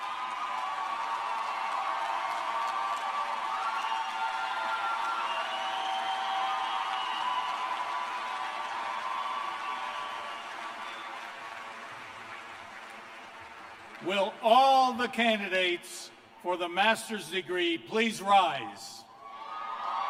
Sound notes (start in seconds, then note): 5.1 cheers and applause